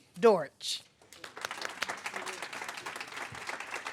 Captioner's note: applause